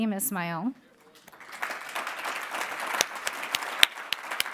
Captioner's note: applauding